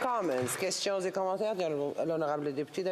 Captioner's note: applause